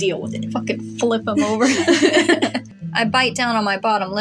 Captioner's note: laugh